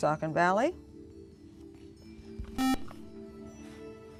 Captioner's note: buzzer